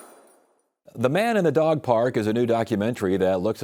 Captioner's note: none